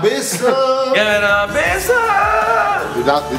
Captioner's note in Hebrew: משמיע קול מגורר